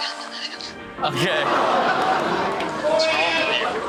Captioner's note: audience groans